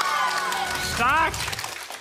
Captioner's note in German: Jubel